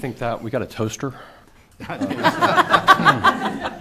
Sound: laughter

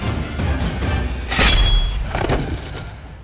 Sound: swords clank

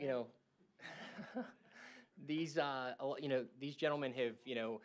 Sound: laughter

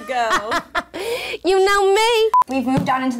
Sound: laughs; beep

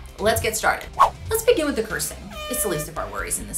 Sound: swooshing; air horn blowing

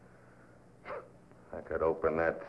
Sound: scoffs

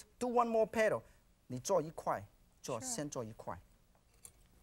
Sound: speaking in foreign language

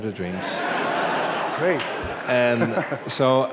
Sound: laughter

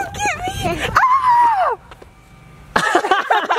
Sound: yells; all laughing

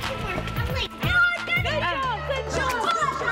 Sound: children screaming

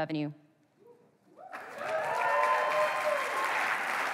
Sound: applause

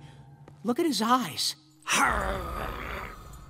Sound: growling

